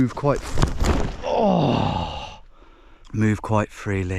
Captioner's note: body crashes; grunts loudly